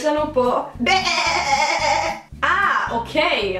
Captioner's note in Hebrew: קול של כבשה